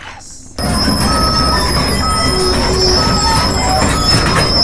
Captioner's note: machine squealing